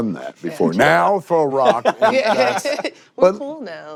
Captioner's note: laughing